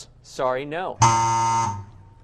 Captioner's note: error buzzer